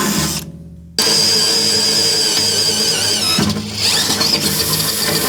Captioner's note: drill whirring